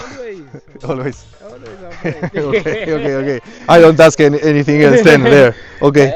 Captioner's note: laughs